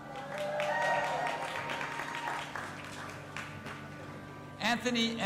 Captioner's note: audience applauding and cheering